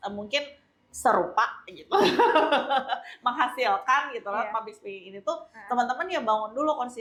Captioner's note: laughs